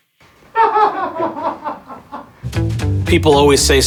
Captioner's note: audience laughing